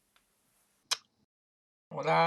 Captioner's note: chpok